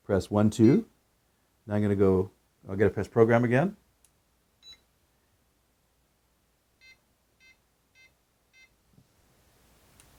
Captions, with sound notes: Press one two, now I gotta to go, I gotta press program again. (keypad tone)